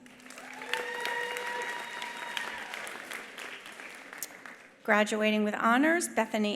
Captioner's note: attendees applauding; attendees cheering